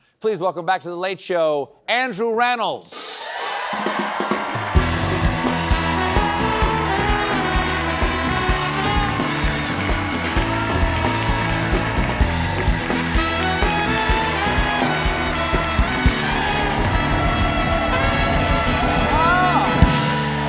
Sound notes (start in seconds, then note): 5.5 cheers and applause